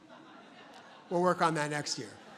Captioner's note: audience laughs